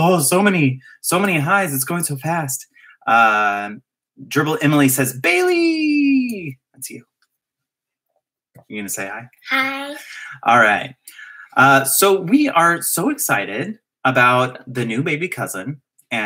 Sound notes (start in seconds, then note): none